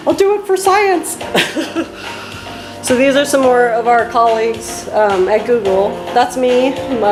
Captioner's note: laughs